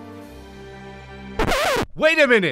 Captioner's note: record scratching